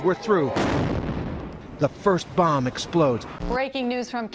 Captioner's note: explosion